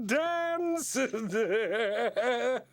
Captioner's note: chuckles; evil laughter